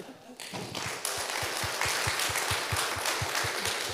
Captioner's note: applause